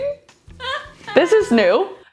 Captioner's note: laughing